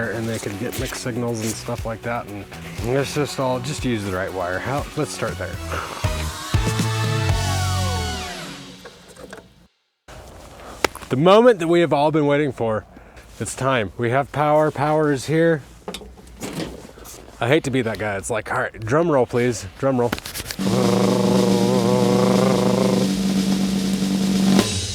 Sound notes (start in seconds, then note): 10.8 palms slapping; 16.5 door clunking; 20.1 palms rubbing; 20.6 drum beats vibrating